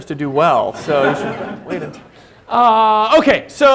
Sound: laughter

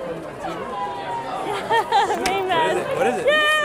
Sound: laughs

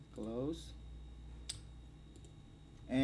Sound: click

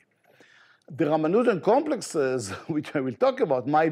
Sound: chuckles

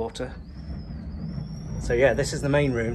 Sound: wind whistling

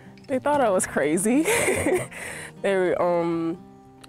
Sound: laughs

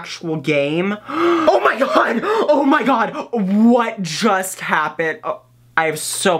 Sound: gasps

